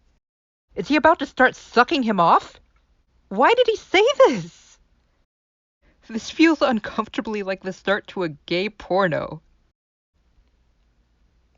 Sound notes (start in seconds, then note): 5.2 laughing